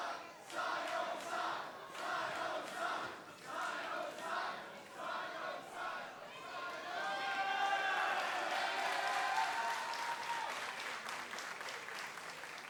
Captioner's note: crowd chatter